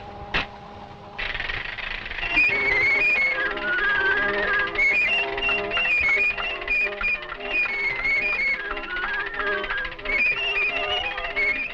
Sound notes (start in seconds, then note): 0.1 tail clicking; 2.8 cheerful music; 2.8 tail clicking